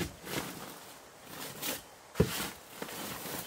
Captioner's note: shoveling